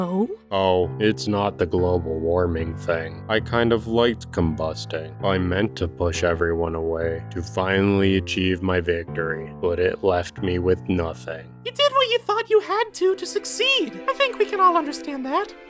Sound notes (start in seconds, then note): none